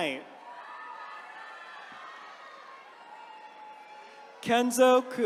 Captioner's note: attendees cheering